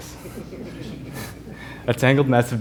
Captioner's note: laughing